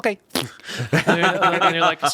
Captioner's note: everyone laughs